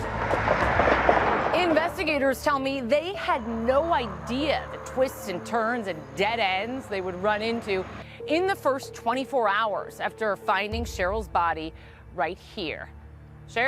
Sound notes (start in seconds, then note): 0.7 vehicles passing